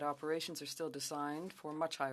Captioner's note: speaking French